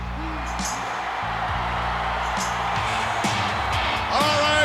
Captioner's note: audience cheering